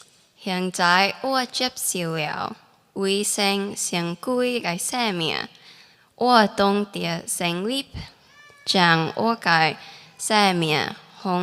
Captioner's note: speaking teochew